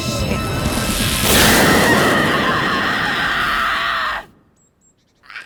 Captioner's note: Zora screaming